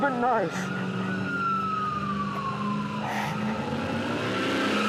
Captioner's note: siren wails